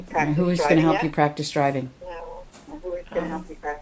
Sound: voiceover

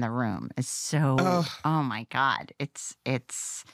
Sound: samantha sighs

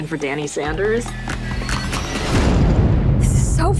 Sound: explosion

